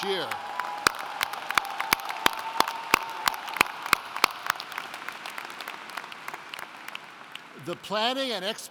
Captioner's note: applauding